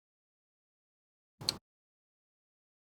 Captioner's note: click